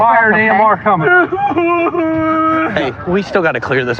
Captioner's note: sobng